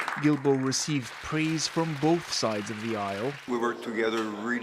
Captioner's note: applause